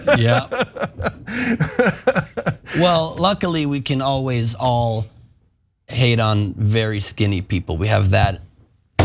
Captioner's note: laugh